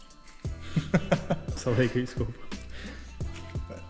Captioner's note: laughing